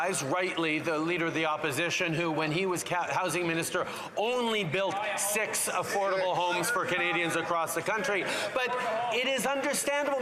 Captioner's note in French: voix de l'interprète